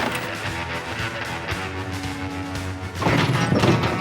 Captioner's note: gunfire